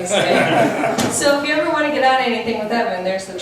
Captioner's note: laughs